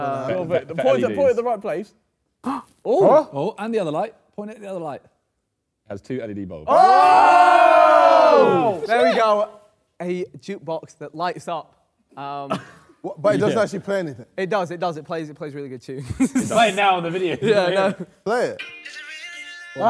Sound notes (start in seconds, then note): 3.2 men gasp; 8.6 Sidemen cheer